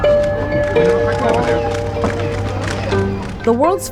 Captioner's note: cameras clicking